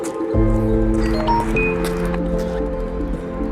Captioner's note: poignant music; message sound